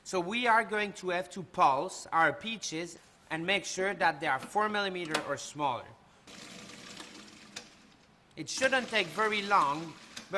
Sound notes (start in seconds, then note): 6.3 blender whirring